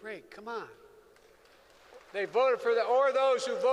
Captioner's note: applause